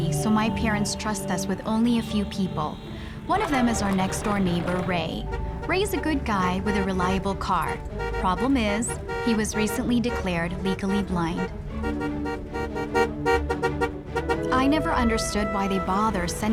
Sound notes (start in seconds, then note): 12.0 horn honking continuously